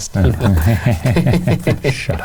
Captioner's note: laughs